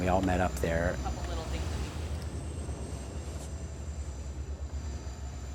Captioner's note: airplane engine roaring